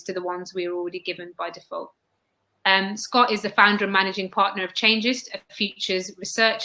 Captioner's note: erm